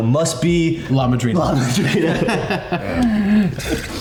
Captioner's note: all laughing